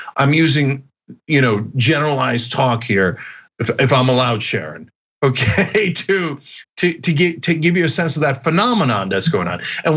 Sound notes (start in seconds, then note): 5.4 laugh